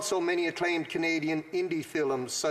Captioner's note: speaking French